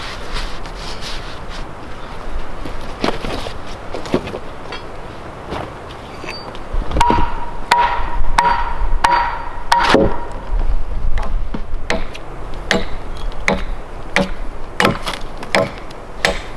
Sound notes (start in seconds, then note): 7.3 ax tapping; 12.3 ax thwacking